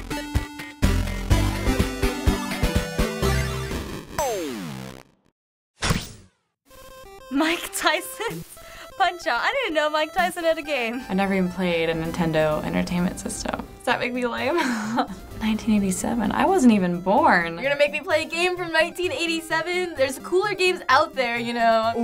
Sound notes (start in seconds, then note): 14.5 laughing